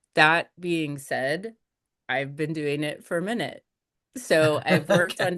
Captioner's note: laughs